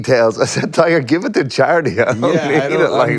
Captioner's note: laughs